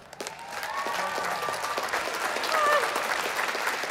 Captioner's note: applause